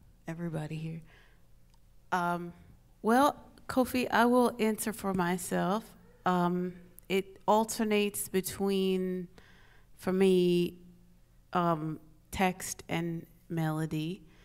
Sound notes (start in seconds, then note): none